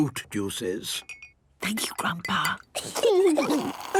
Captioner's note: Granny whispering; children giggling